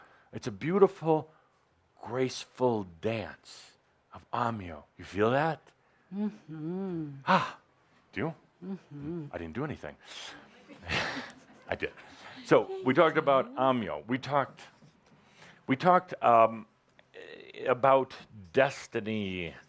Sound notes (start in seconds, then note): 10.8 he chuckles